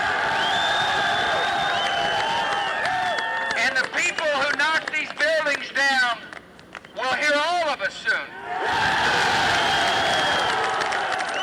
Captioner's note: cheers and applause